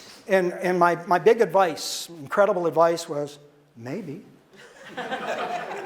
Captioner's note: audience laughter